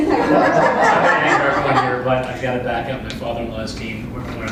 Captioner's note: laugh